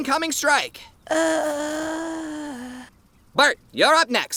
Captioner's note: groaning